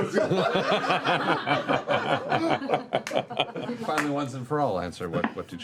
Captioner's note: laughter